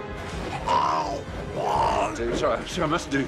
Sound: grunting

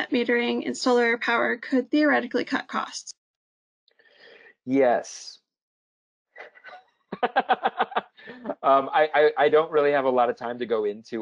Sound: laugh

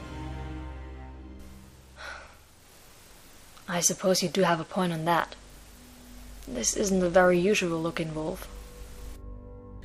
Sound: sighs

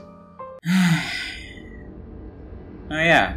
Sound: sigh

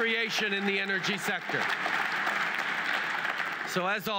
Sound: cheers & applause

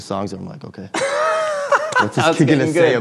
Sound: laughing

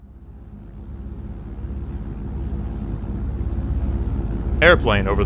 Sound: airplane white noise

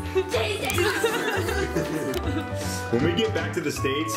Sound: laughing

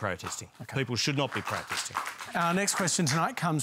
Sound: scattered applause

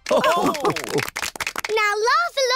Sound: all laugh

